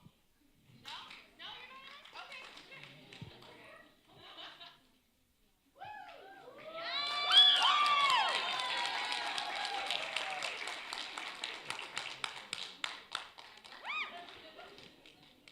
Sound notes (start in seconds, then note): 0.2 talking in background; 5.8 cheering